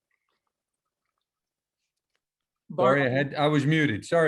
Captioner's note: no sound